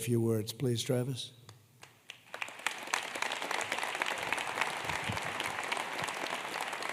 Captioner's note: applause